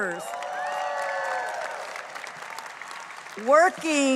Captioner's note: audience cheering